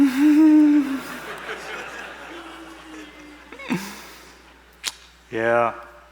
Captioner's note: laughter